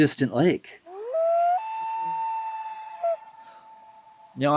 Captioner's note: loon Call